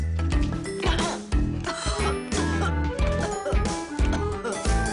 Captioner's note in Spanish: Carraspea